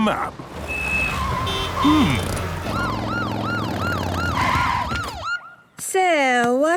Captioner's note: honking, sirens